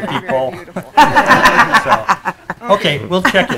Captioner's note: group laughing